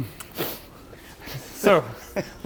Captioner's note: mechanic chuckling